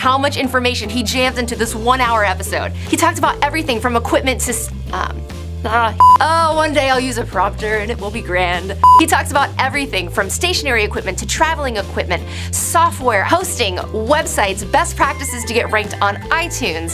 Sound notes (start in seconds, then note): 5.2 beep